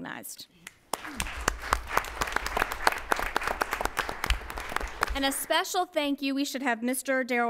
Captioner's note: applause